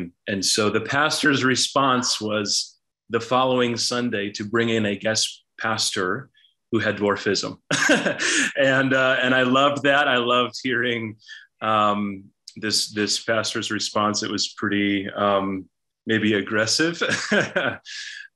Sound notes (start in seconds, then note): 7.7 laughs; 16.9 chuckles